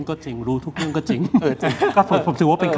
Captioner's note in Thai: เสียงหัวเราะ